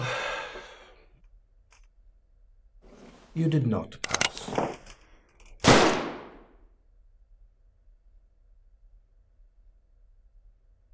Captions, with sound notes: (sighs) you did not pass. (shot fired)